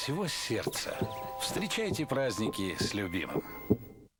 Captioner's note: heartbeat